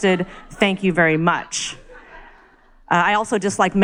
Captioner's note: crowd laughs